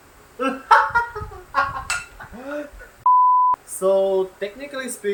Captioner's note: laughs